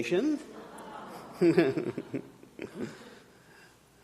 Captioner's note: audience cooing